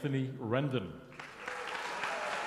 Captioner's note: applause